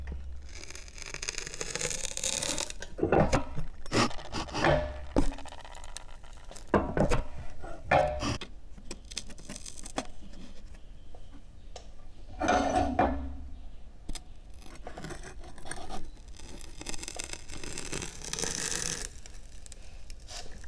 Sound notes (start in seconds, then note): 0.6 sound of wood fibers compressing; 16.9 sound of wood fibers compressing